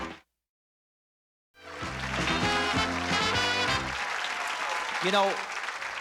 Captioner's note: applause, cheering